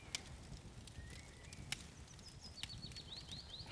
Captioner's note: fire crackles